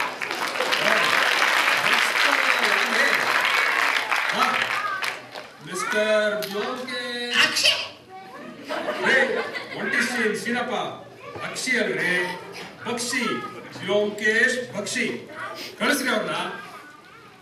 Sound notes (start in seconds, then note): 7.4 sneeze